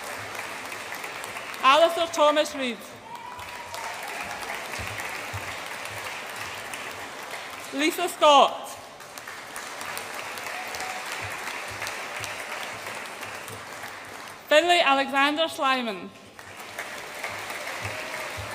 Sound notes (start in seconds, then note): 0.0 audience applauds and cheers; 3.0 audience applauds and cheers; 8.9 audience applauds; 16.2 audience applauds